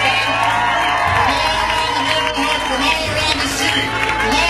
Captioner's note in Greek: χειροκρότημα